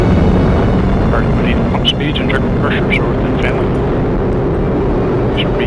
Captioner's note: radio chatter